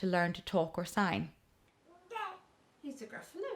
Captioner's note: babbles